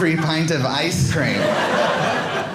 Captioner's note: audience laughing